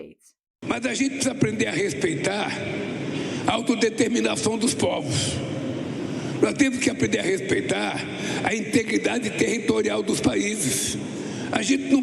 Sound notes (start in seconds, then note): 1.1 Lula speaking in Portugues